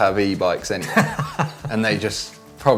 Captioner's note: laughing